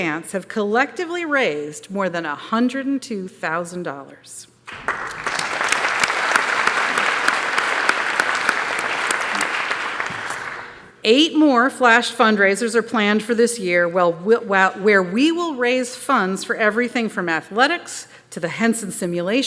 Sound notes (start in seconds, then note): 4.6 applause